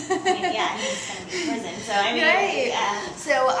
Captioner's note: laughs